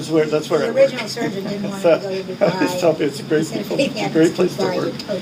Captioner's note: laughing